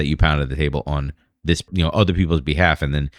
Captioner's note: uh